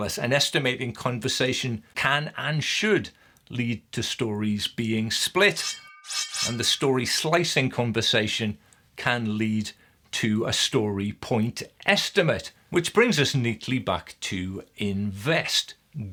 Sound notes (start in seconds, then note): 5.5 slicing whoosh